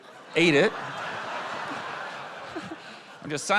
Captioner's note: laughter